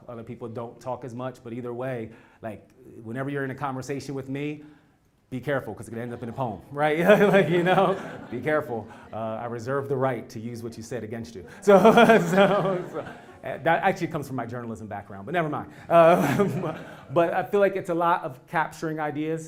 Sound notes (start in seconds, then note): 6.9 laugh; 11.4 laugh; 15.8 laugh